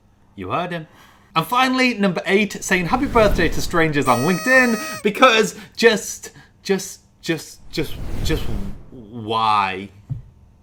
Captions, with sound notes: - You heard him. And finally, number eight. Saying happy birthday to strangers on LinkedIn (party blower squawks) because, just, just, just, just, just, why?